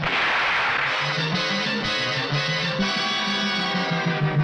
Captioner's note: gun shoots